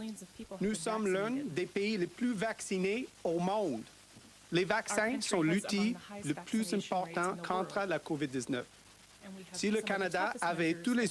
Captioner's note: speaking French